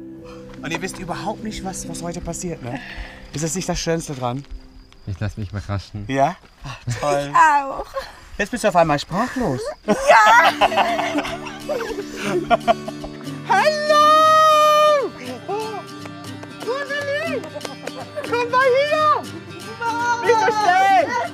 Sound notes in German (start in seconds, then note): 9.3 Lachen